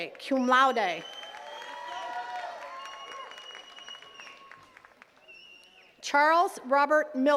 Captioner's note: attendees cheering and clapping